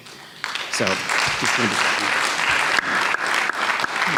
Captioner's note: audience clapping